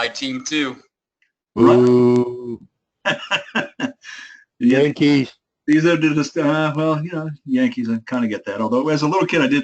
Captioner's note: laugh